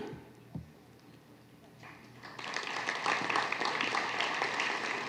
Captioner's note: applause